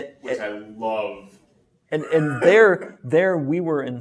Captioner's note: laughs